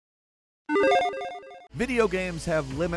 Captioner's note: logo beeps